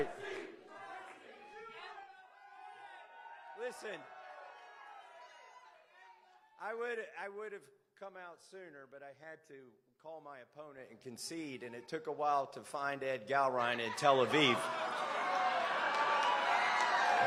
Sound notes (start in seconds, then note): 0.0 cheers; 1.6 chanting "massie"